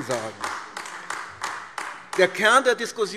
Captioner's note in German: Beifall AfD